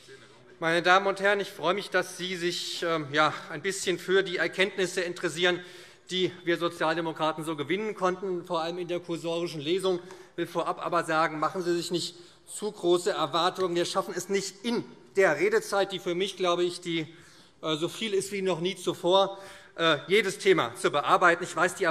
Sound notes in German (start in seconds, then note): none